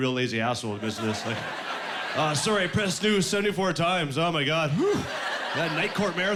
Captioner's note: laughing